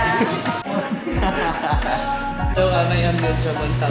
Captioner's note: laughing